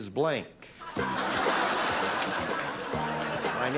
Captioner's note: laughter